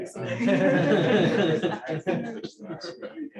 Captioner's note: laughter